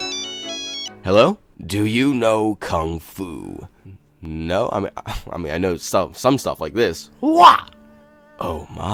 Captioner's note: whaaaaa